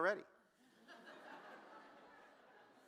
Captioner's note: laughter